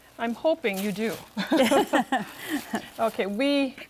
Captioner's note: both laugh